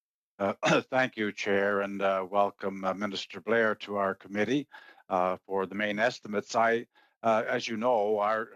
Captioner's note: speaking French